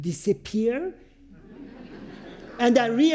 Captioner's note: audience chuckles